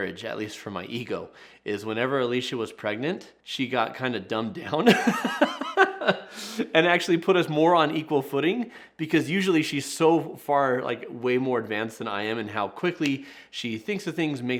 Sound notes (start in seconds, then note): 4.8 laughing